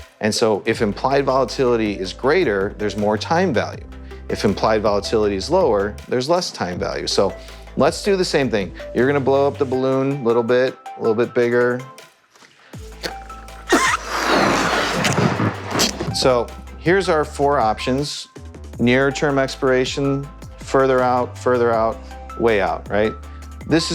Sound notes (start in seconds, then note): 13.7 air whooshes